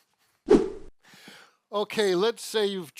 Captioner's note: quick swooshing noise